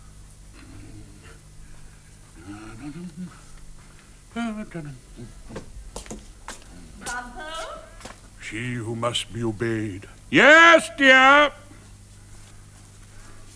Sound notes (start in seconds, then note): 0.6 hums